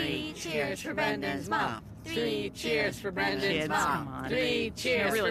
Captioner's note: chanting; chanting